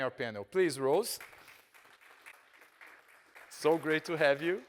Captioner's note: audience applauding